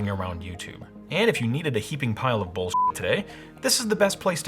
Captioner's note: beep